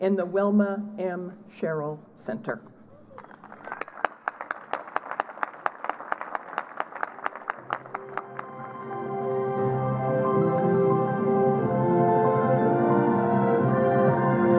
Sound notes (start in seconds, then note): 3.1 applause; 7.6 closing music